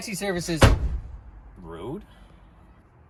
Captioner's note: door closes loudly